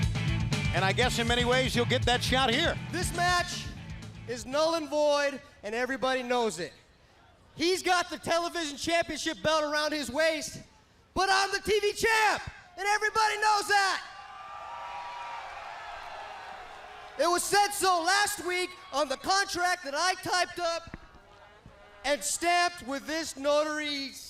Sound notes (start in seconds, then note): 16.3 crowd cheering